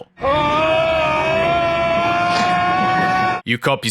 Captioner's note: kaleidoscope of insanity with Dr. Wier from Event Horizon screaming in horror